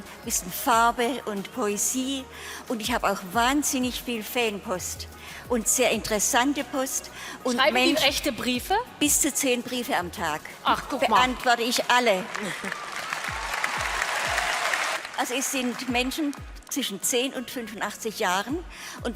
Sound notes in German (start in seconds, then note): 12.2 Klatschen